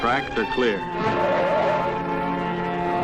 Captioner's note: tires screeching